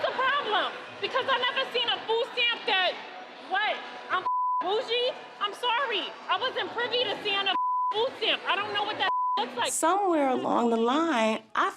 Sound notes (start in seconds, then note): 4.2 beep; 9.0 beep